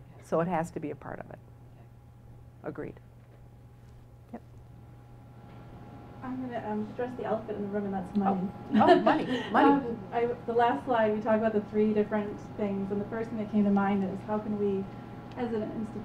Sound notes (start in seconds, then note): 8.7 laugh